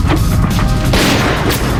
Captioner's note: shot